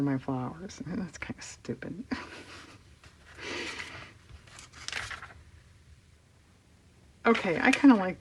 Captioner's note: laughs